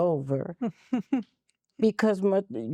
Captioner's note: giggling